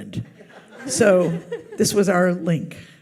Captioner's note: audience laughs